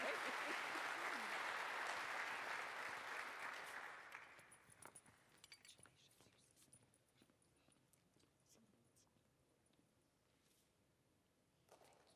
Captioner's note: applause